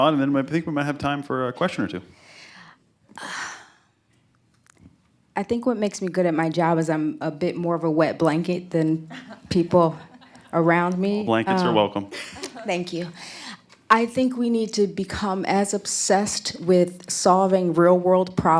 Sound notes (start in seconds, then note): 9.0 laughter